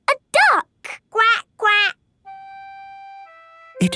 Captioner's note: quacking